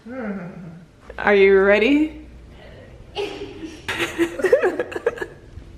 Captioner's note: laughs